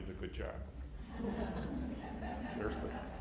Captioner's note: laughter